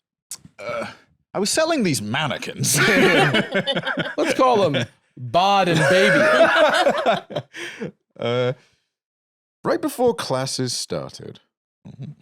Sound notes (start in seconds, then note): 2.6 all laugh; 5.7 laugh